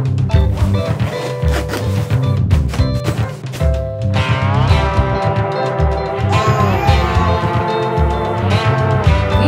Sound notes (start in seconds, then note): 0.8 bag zips; 1.7 bags thudding; 6.2 baby cooing